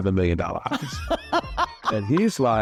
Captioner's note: laughter